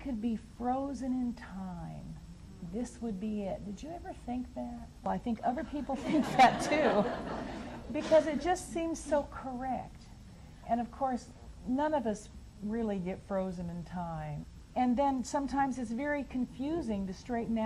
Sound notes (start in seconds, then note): 6.0 audience laughs